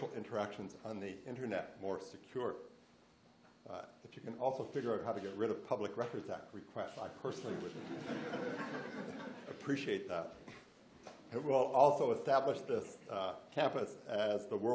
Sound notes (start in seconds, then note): 7.5 laughs